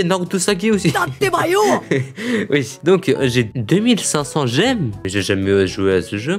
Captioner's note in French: Rigole